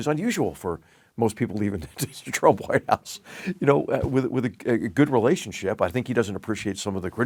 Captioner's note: laugh